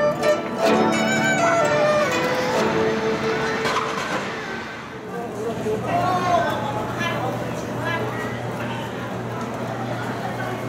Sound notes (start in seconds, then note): 1.8 Misc fades out, replaced by crowd and street sounds